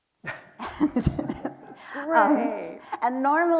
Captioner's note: chuckles